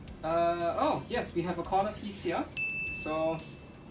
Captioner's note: alarm rings